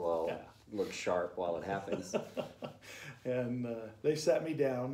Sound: laughter

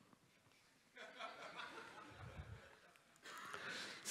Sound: laughter in the audience

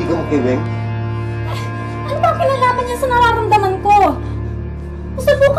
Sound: scoffs

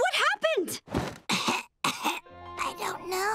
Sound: coughing

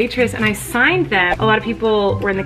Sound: whooshing

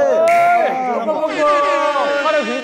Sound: air horn

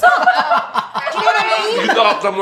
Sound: all laughing

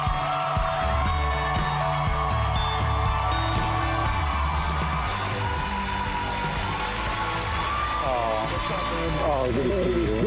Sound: cheering

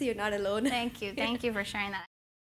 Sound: laugh

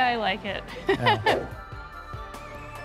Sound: laughing

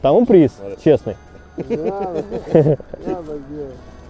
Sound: laughing

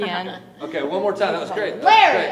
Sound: laughing

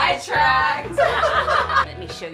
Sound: all laugh

